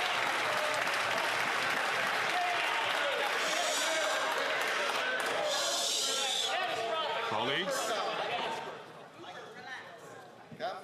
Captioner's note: some Applause